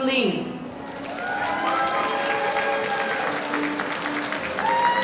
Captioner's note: audience applauding